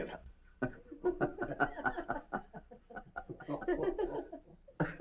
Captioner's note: mary and hoppy chuckles